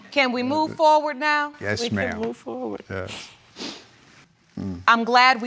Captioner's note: sniffles